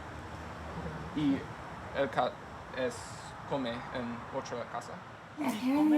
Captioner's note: speaking in Spanish